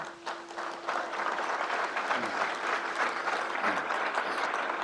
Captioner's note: crowd applauds